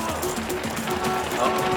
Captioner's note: horn beeping